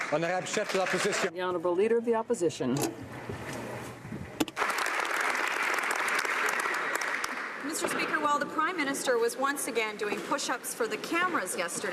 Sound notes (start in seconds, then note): 0.0 applause; 2.3 speaking French